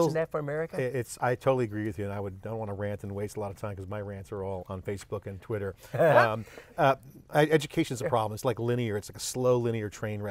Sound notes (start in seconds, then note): 5.0 both laugh